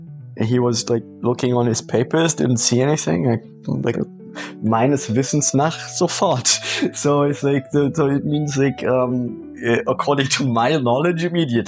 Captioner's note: in German